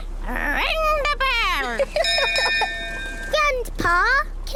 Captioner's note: laughs; rings bell